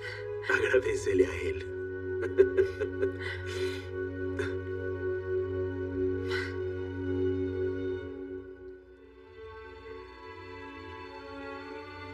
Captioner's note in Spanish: Ríe